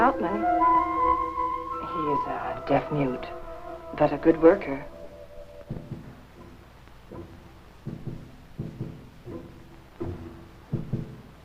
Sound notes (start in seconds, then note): 5.5 speaking in foreign language; 11.1 dramatic music